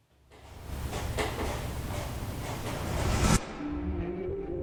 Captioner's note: object rasping